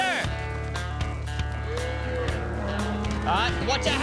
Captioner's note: mooing